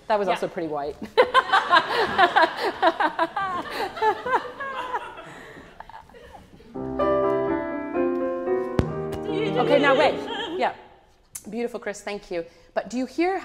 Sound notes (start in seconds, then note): 1.3 laughs